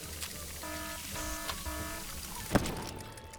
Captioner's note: alarm blaring; cupcake popping